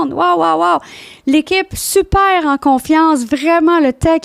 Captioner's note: in french